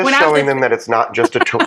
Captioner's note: laugh